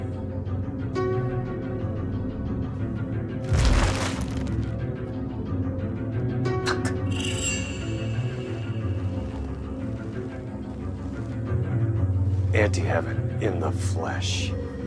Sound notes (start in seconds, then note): 1.1 suspenseful music continues; 3.4 tarp rustles